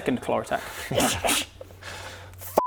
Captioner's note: swish swish